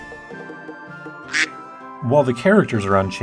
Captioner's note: quack